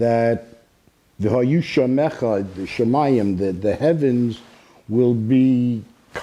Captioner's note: speaking Hebrew